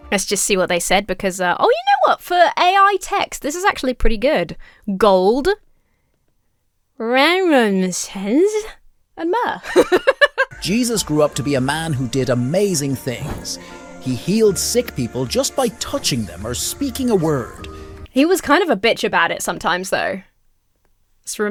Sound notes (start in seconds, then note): 7.1 speaks gibberish; 9.5 laughs